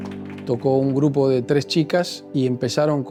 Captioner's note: in Spanish